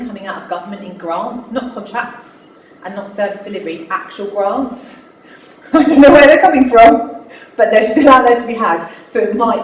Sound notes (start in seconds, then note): 5.7 laughs